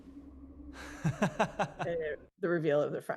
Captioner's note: laughing